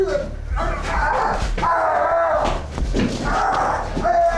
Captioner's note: yelling